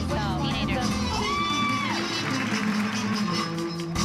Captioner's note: applause and cheering